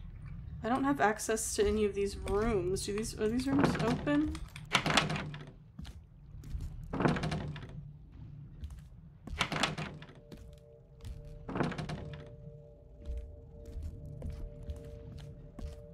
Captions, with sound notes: I don't have access to any of these rooms. Do these- Are these rooms open? [Doors Rattle] [Door Rattles] [Door Rattles] [Door Rattles]